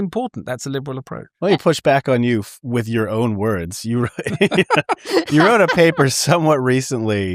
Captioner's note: laughter